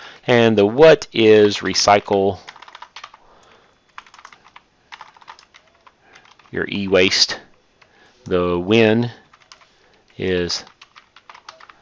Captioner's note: typing